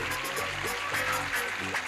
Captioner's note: clapping